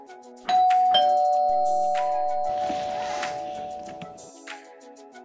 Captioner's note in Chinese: 门铃声